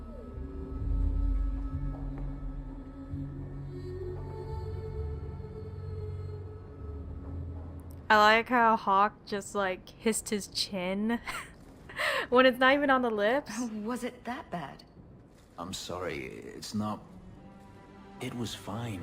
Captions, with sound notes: I like how Hawke just kissed his chin [laughs] When it's not even on the lips?